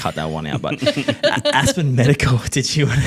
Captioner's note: laughing